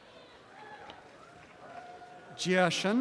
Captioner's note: cheering